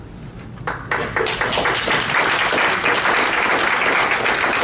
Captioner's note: audience applauds